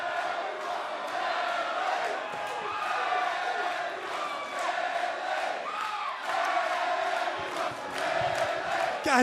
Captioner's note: fans chanting